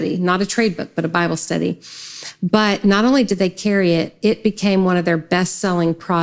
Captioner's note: none